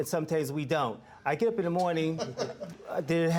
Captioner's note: laughs